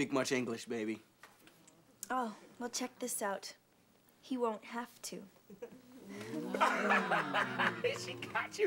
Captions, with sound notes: HE DOESN S'TPEAK MUCH ENGLISH, BABY. OH. WELL, CHECTHK ISUT O. HE WON 'THAVE TO. ( class oohing )